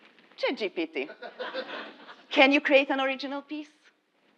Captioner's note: laugh